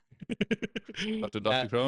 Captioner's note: laughs